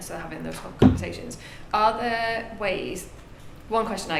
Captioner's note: none